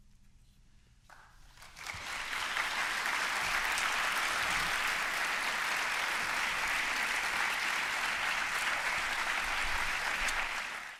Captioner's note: applause